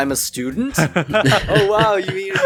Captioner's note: laughing